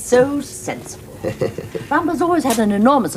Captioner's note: George laughs